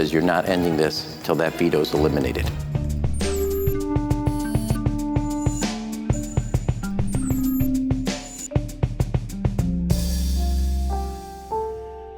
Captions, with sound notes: "You're not ending this till that veto's eliminated." (bright music) (electronic beeping)